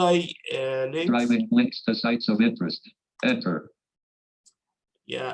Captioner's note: automated Voice